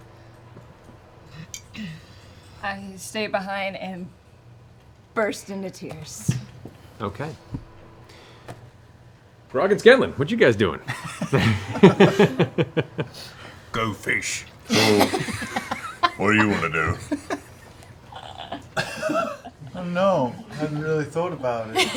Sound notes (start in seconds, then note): 10.8 relieved laughter; 14.0 Grog voice